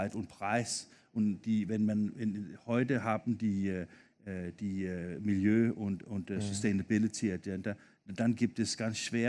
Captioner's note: foreign language 00:11:21